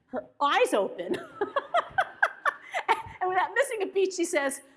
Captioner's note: laughs; audience laughs